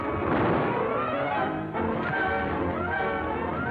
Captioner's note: weapon fires; dramatic music